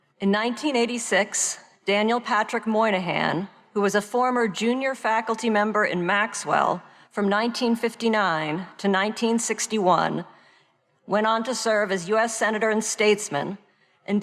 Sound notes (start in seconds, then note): none